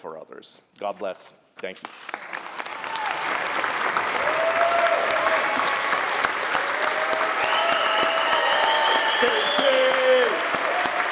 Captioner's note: applause